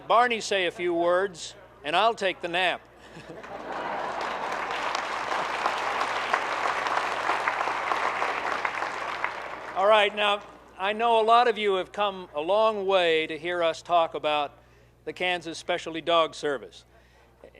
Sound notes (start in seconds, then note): 3.0 group laughing; 3.2 group clapping